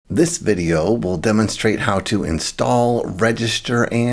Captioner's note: voiceover